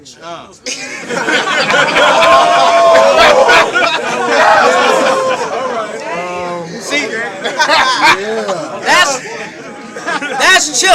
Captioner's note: crowd Reaction